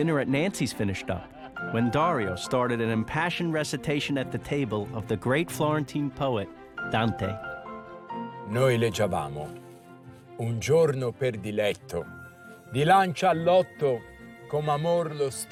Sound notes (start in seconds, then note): 2.1 reciting from Dante's Inferno; 12.7 reciting in Italian